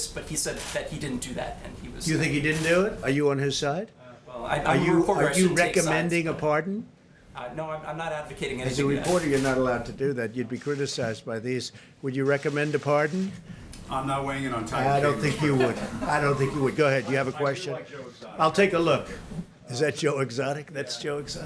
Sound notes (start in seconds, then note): 15.2 laughter